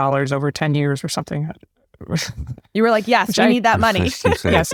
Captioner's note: laugh